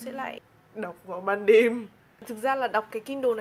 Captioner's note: sarcastic